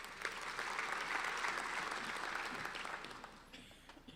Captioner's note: applauding